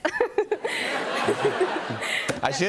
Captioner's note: laughter